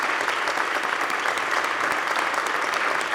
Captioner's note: applause